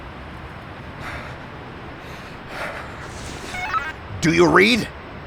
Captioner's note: Houston panicked breathing